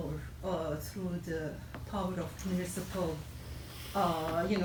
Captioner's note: none